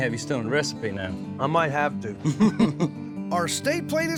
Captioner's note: both chuckle